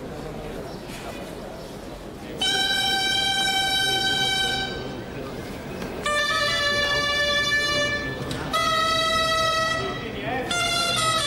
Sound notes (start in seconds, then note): 2.4 horns blowing; 8.6 band playing lively song